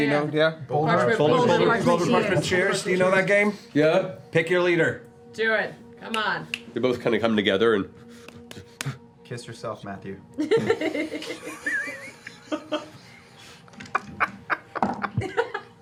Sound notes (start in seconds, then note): 8.9 tapping